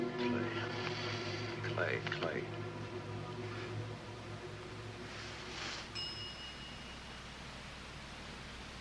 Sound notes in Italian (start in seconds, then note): 5.9 squilla il telefono